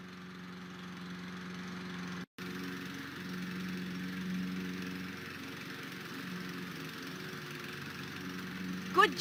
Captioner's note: mowing Sounds